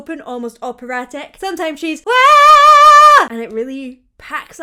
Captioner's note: vocalizes